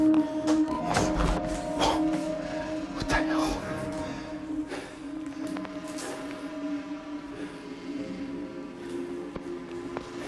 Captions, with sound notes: [ GASPS ] WHAT THE HELL?